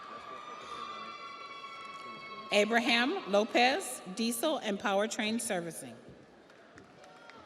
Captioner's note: audience cheers; audience applauds